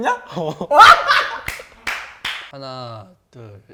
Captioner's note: cracking up